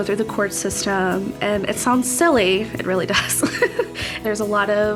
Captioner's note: laughing